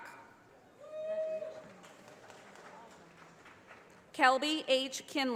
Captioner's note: audience applauding